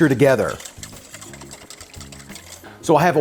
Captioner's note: liquid splashing